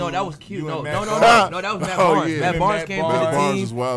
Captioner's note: laughs